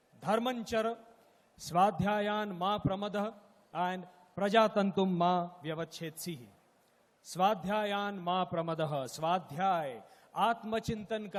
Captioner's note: Speaks in Sanskrit - not transcribed